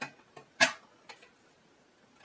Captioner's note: clunk